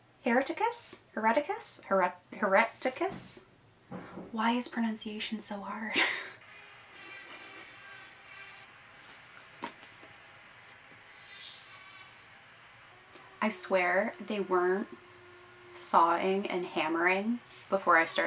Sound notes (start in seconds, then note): 6.0 an electric saw in the background